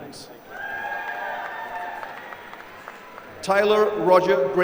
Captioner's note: applause